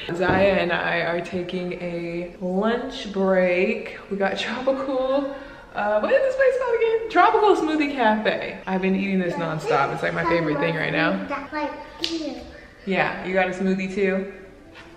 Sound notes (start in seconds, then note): 11.3 child talking